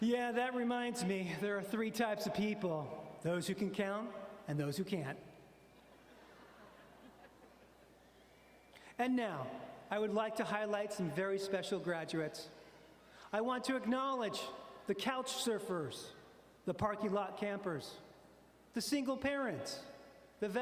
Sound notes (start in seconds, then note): 5.8 audience laughing